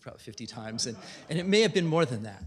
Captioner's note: laughter